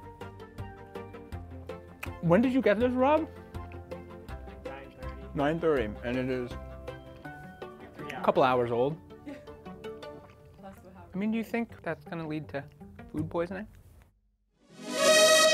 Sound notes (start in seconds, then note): 0.1 upbeat music; 9.2 woman laughs